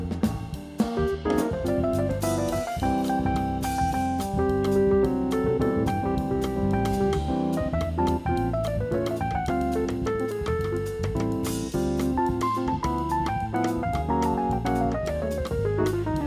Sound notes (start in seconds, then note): none